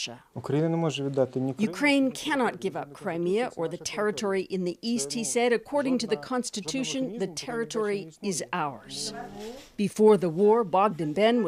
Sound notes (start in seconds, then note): 6.6 speaking Foreign Language